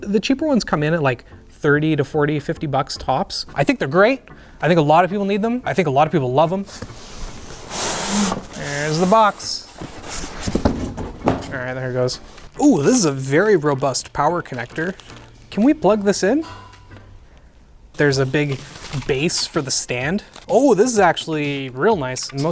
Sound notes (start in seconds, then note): 6.7 box swooshing; 9.6 box dropping